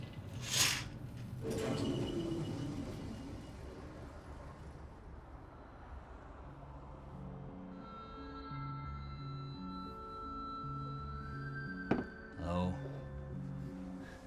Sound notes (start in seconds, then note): 1.0 heating vent turns off